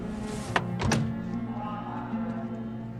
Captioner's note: none